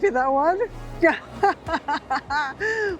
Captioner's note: laughing